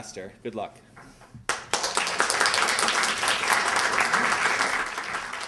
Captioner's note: applause